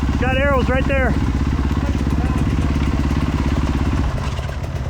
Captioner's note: engine revving